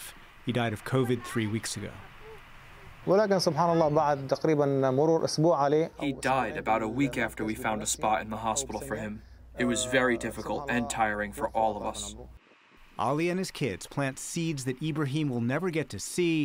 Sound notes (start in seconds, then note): 3.9 through translator